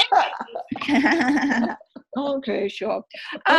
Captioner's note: laughing